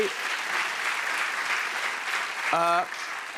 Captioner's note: applause